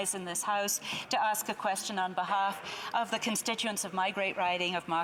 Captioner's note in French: voix de l'interprète